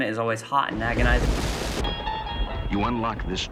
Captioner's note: TV static